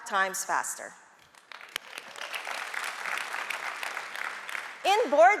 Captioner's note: audience applauding